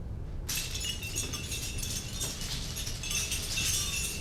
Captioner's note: jingling bells